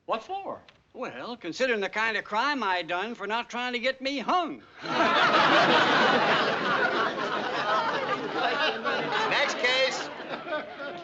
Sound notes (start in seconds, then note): 4.8 residents laugh; 4.8 audience laughs